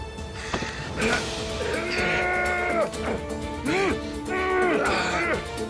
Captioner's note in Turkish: Dövüş sesleri